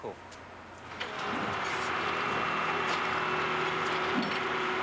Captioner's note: backhoe excavating